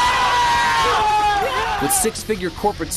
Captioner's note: cheering